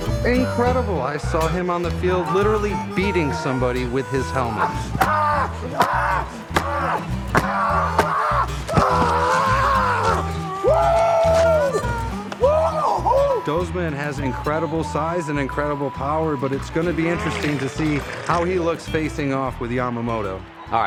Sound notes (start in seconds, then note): 5.1 grunting